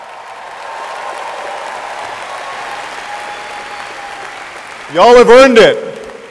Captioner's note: audience applauding and cheering